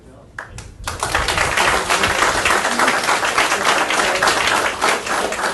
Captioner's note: audience applauding